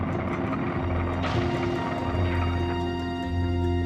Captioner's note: fire roaring, explosions